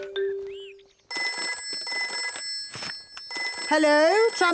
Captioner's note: phone ringing